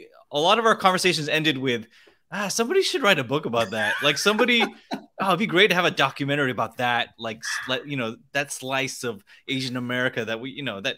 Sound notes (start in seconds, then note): 3.6 laughs